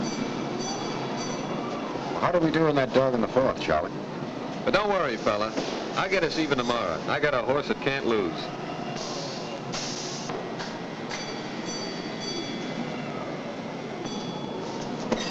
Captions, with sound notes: (bell dinging nearby) Well, how did we do on that dog in the fourth, Charlie? - But don't worry, fella. I'll get us even tomorrow. I got a horse that can't lose. (machinery rumbling)